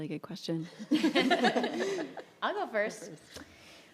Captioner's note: panelists laugh